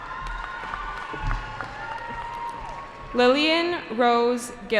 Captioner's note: cheering